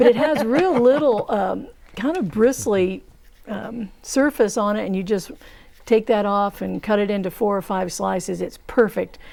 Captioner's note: laughing